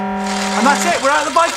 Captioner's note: buzzer